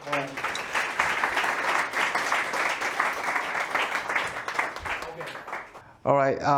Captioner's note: applause